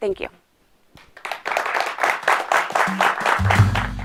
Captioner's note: clapping